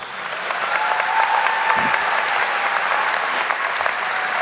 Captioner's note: audience applauding